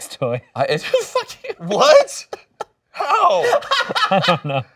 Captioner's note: laughing